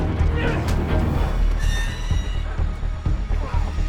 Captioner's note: metal creaks